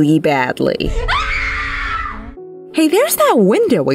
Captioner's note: screaming